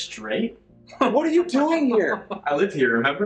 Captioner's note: Alex laughs loudly